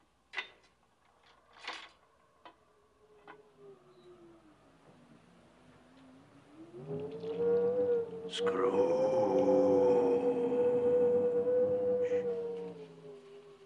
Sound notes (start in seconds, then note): 6.5 wind howling